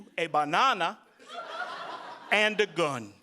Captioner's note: audience laughing